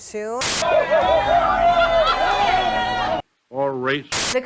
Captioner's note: workers cheering